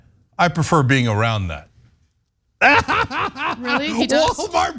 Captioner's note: laugh